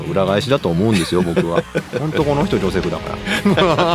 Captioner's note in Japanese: 笑い